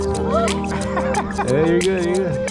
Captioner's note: indistinct Laughter